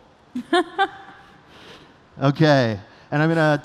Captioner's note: laughter